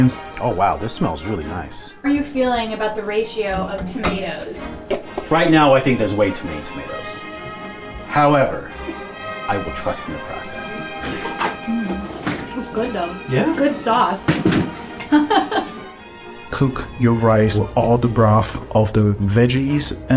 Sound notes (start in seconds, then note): 14.8 chuckles